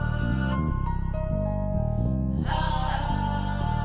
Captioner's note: whispering